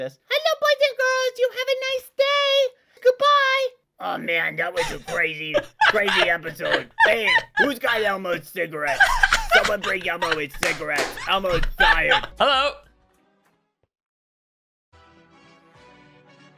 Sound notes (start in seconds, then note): 0.2 Elmo voice; 3.8 deep, gravelly Elmo voice; 4.7 laughing; 6.8 deep, gravelly Elmo voice; 8.8 laughing; 9.4 deep, gravelly Elmo voice